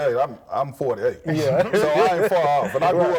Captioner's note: laughs